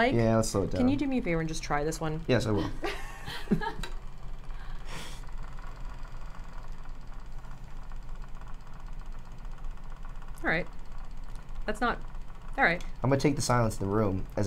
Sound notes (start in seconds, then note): 2.6 all laugh; 7.0 machine rattles